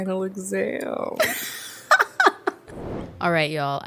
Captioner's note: laugh